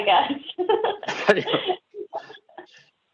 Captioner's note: laugh